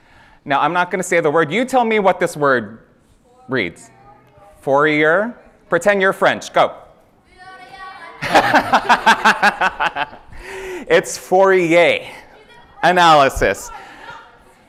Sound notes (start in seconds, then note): 8.2 laughter